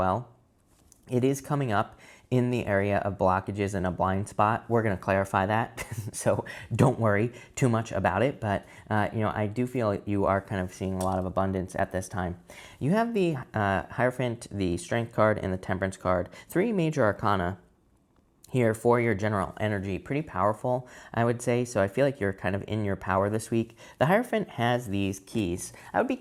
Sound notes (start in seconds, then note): 5.7 man chuckles